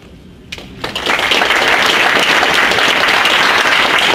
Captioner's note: audience applauds